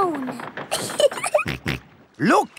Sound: giggling; snorts

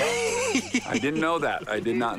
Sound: laughs

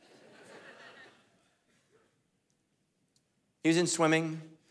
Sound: congregation laughing

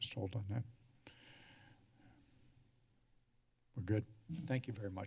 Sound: sigh

